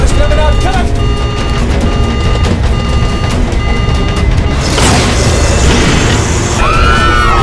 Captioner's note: alarms; screaming